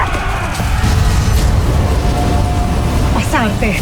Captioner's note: screaming; epic music playing; powerful whoosh-crackle